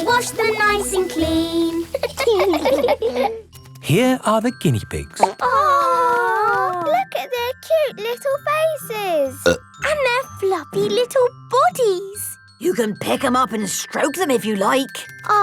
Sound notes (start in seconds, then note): 1.8 laughing; 5.2 plop